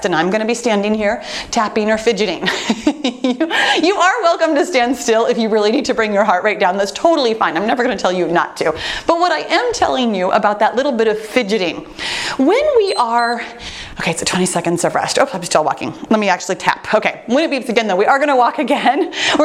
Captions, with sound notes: and I'm gonna be standing here, tapping or fidgeting. (laughs) You are welcome to stand still if you really need to bring your heart rate down, that's totally fine. I'm never gonna tell you not to, but what I am telling you about that little bit of fidgeting. When we are-- (timer beeps) Okay, so 20 seconds of rest. Oh, I'm still walking. Let me actually tap. Okay, when it beeps again, though, we are gonna walk again,